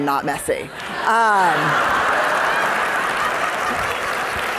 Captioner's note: audience laughing